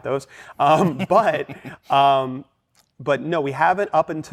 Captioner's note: laughter